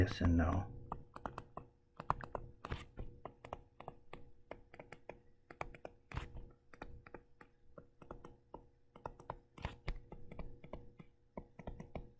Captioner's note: tapping Sounds